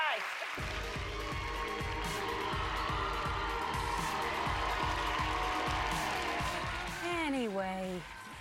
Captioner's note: cheers and applause